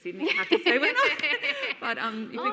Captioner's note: both laughing